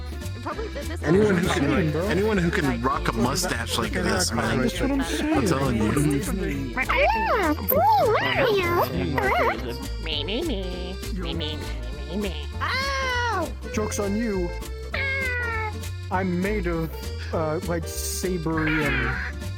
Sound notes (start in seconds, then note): 6.7 squeaky voice; 12.6 screaming